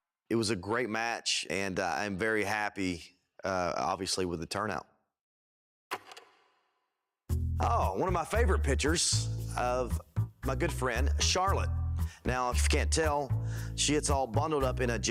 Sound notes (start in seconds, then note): 6.4 film reel clicks